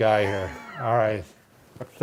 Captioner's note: laughing